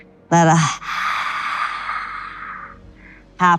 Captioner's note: exhales